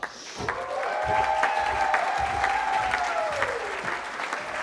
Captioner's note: cheering